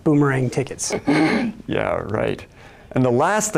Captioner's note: laughs